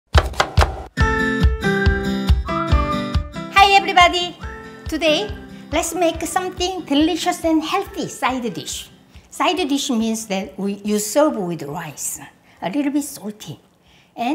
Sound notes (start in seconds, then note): 0.1 knife thudding; 0.9 bright music